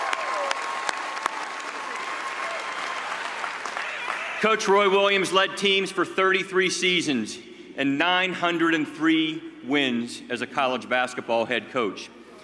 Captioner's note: cheers and applause